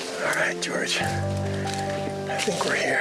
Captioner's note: ground crunching